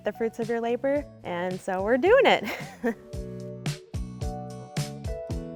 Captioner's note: chuckling; upbeat music